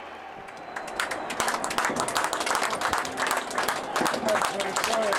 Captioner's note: group clapping